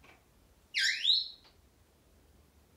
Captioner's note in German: squeak sound